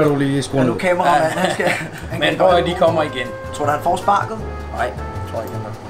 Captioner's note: everyone laughs a bit